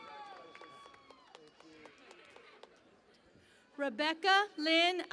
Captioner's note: cheering and Applause